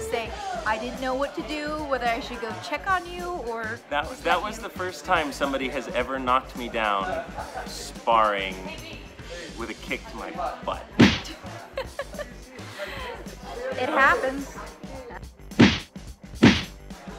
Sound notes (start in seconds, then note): 11.0 video game kick; 11.3 laughter; 15.6 video game kick